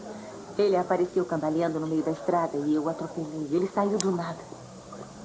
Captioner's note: none